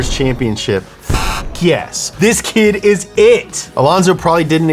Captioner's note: beep